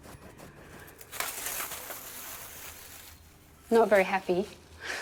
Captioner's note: material rustling